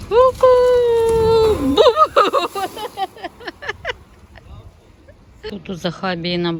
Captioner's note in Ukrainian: сміх